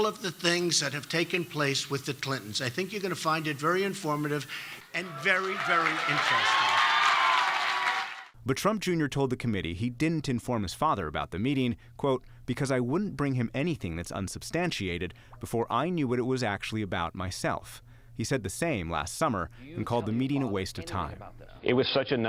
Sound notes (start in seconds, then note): 4.8 cheering and applause